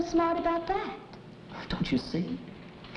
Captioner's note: none